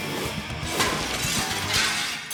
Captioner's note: upbeat rock music; metal crashes; glass shattering